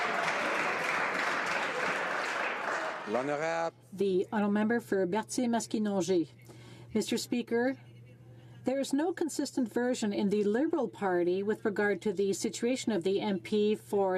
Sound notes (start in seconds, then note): 4.4 some Applause